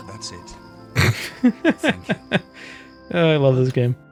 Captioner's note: laughing